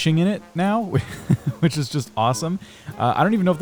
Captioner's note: laughs